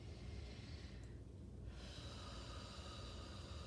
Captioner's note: breathing deeply